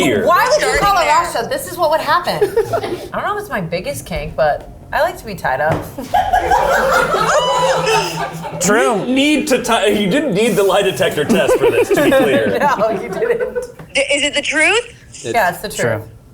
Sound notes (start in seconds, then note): 6.0 all laughing